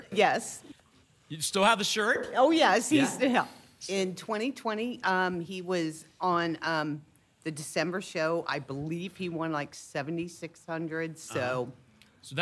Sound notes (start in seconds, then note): none